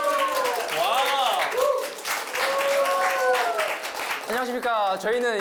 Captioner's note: excited cheers of anticipation